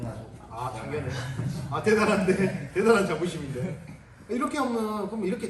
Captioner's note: everyone laughs